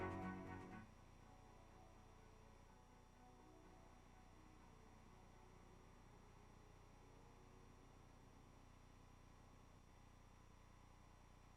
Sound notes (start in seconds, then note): none